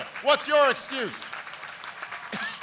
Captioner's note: applause